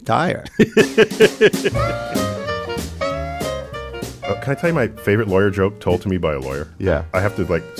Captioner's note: laughs